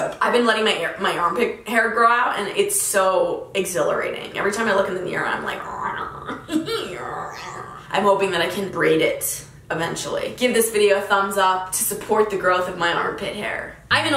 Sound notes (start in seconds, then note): 7.0 growling